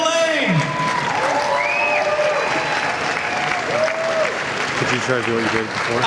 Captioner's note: cheering and applause